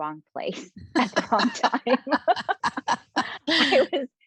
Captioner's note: laughing